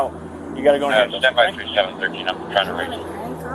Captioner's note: radio chatter